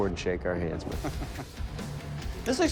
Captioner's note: chuckles